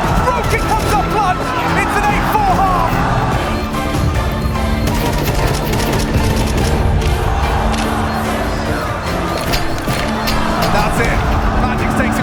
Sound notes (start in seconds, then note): 3.6 intense music; 4.8 rifle firing; 7.4 crowd cheers